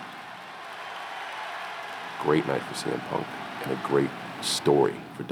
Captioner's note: applause